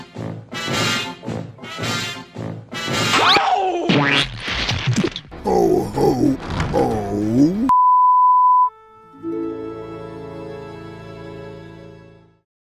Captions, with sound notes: (climax noises) HO! HO! Ooohhhhh?